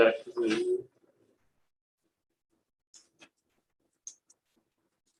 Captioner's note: indistinct conversation